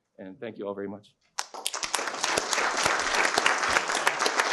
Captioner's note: applause